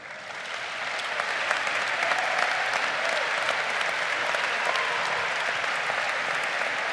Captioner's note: crowd applauding